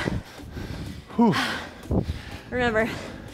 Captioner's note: breathes heavily